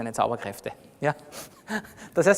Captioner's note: laughs